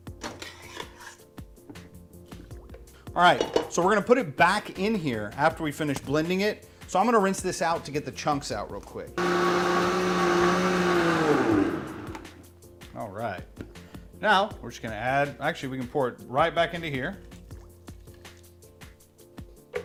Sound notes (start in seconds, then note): 0.0 mellow music; 0.3 metal scrapping; 9.2 blender rumbling; 17.3 mellow music